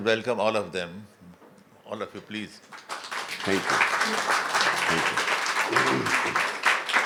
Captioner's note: clapping